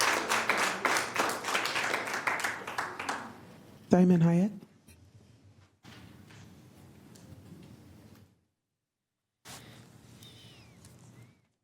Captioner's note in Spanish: Aplausos